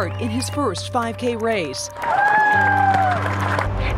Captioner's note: applause